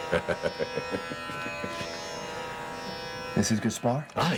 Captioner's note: laughing